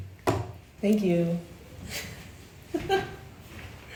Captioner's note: cup thumping; giggles